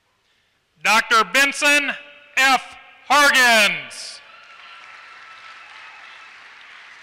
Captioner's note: applause